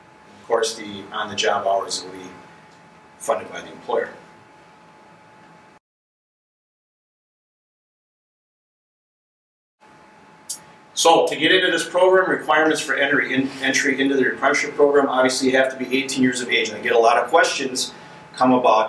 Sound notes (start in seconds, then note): 5.7 silence